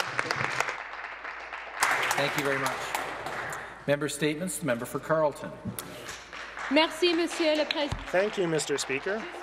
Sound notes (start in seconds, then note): 6.0 some Applause